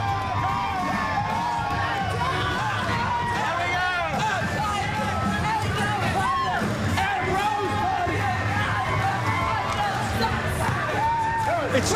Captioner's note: cheers & applause